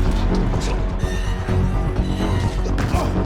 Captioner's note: metal creaks